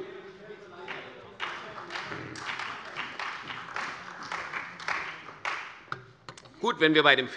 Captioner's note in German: Beifall bei der CDU und dem BÜNDNIS 90/DIE GRÜNEN